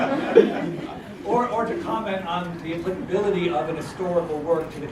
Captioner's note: laugh